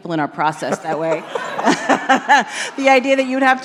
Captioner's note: laughter